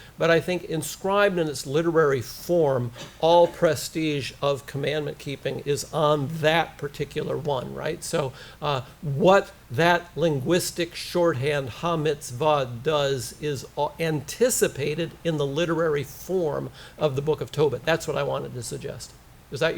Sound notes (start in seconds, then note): 12.0 hebrew